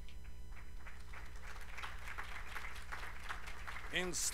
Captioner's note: applause